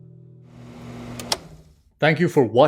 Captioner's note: clicking sound